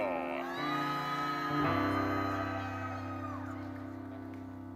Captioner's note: attendees cheering